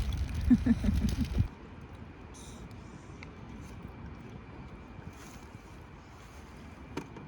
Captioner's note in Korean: 조용